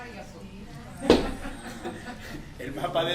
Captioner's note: laughs